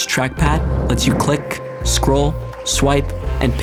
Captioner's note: whooshing